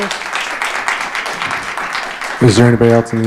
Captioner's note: audience applauding